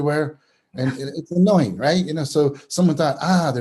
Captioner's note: chuckles